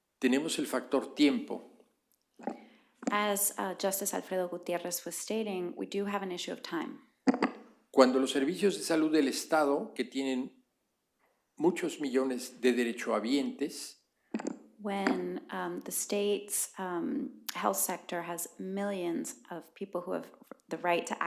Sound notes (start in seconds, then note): 0.1 spanish; 11.4 spanish